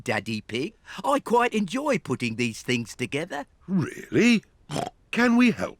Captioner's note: snorts